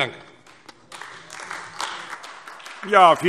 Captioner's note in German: Beifall AfD